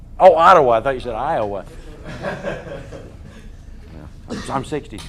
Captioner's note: audience laughter